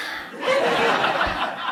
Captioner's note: laughs